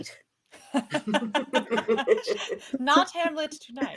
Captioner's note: laughing